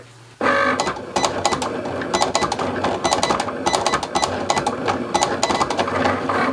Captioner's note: Cricut machine whirring; Cricut machine beeping